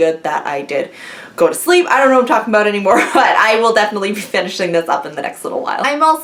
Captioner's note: laughs